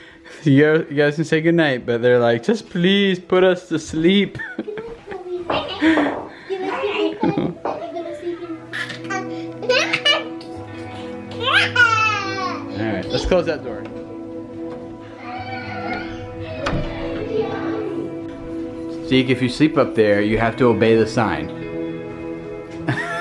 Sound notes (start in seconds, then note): 5.6 children chatter and giggle; 14.9 kids chattering